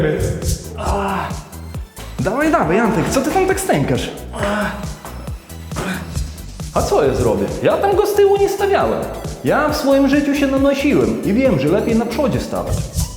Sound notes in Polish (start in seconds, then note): 0.7 Stękanie Antka; 5.8 Stękanie Antka; 12.9 Skoczna Muzyka